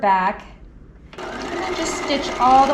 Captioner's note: sewing machine whirling